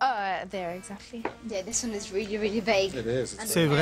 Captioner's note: in English